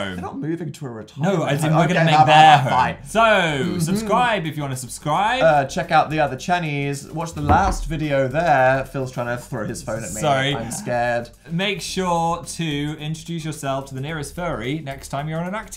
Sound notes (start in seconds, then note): 7.4 sound of phone falling on table